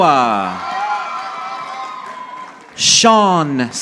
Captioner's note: audience applauding